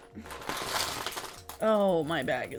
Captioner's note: tools splashing